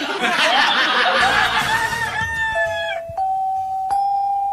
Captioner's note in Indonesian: tertawa